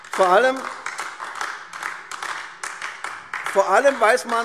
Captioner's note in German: Beifall AfD